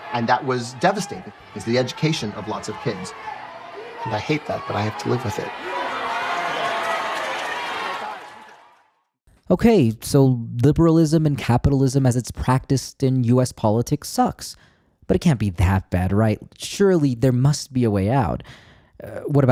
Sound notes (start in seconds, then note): 6.1 protestors yelling